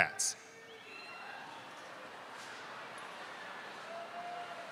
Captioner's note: crowd cheers